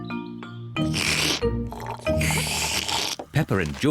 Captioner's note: both slurping